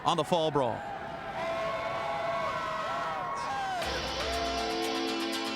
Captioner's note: crowd cheering